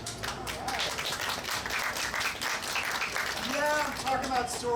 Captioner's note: audience applauding